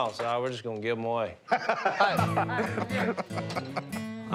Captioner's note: laughter